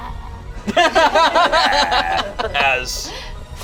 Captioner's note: group laughs